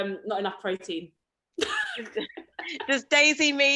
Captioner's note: chuckles